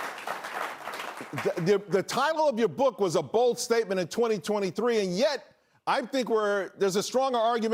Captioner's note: applause